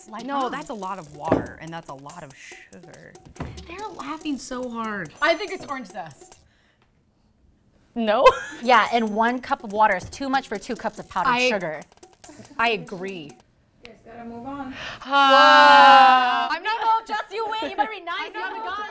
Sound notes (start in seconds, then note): 8.2 laughs